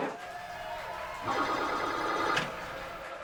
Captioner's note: crowd wild applause echos; pinball sounds